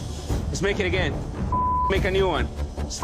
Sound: beep

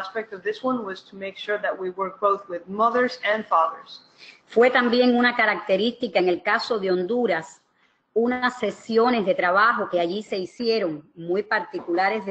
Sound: speaking another language

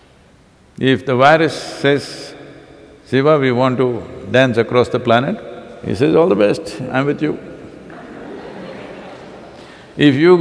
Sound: laughter

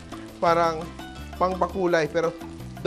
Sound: sizzle; sizzles

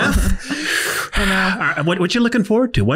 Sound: breathes deeply

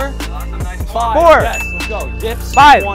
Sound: bell dinging

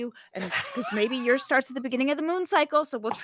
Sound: laughs

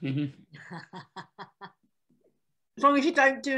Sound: laughing

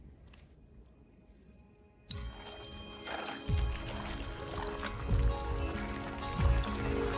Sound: slow music; crackling

